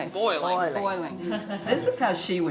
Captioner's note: chuckles